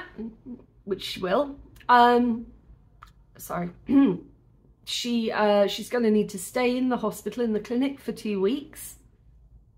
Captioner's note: clears throat